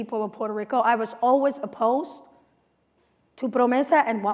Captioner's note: non-english speech